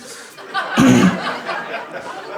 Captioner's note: clears throat